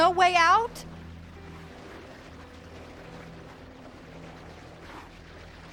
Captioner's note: churning Sound</i> <i> Continues